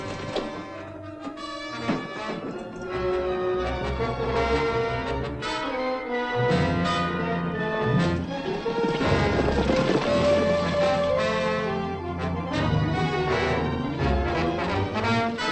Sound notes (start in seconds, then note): 0.5 defiant music; 4.1 horses galloping